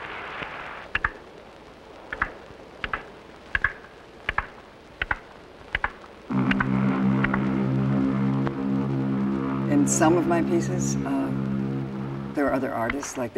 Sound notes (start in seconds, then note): 3.5 sound of two blocks being clapped against each other; 6.3 sound of a ship's horn